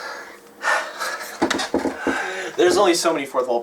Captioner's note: sigh